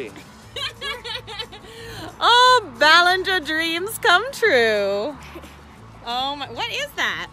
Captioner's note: laughing